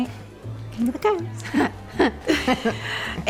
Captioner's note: chuckling